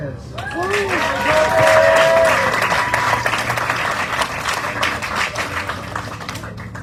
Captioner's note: audience cheering, applauding